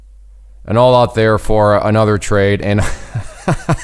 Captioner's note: laughs